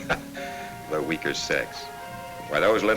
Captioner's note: chuckles